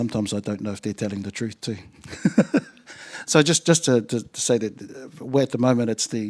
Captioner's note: chuckles